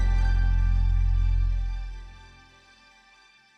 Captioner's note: none